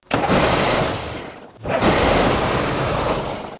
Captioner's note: engine sputters